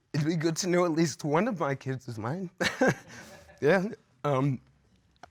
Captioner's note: chuckles